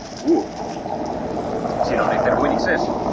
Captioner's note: car driving